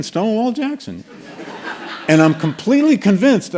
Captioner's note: laughter